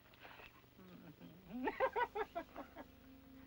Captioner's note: laughs